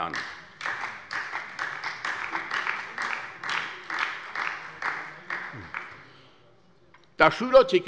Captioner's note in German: Beifall bei der SPD